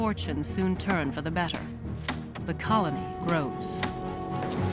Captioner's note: none